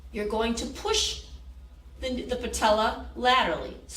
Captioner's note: none